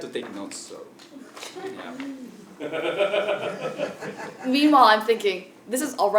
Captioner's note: laugh